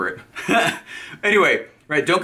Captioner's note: laughs